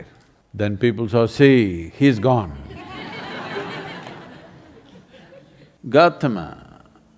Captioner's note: laughter; 笑聲